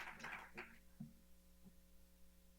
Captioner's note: applause